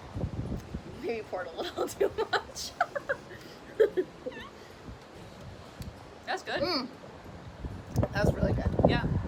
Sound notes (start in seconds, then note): 3.6 laughing